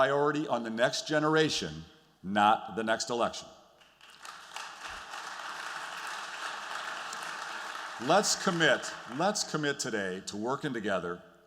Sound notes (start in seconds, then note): 3.8 applause